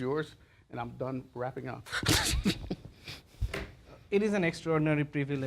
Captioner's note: laughs